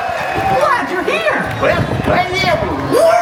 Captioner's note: crowd cheers